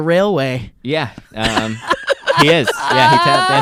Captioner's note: laughing